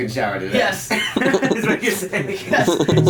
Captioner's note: laughing